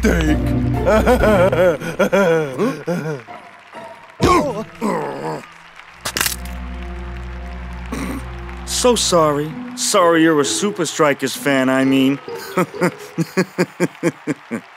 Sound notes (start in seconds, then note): 0.8 laughs menacingly; 5.1 growls; 6.0 toy cracks; 7.9 snickers; 12.2 laughs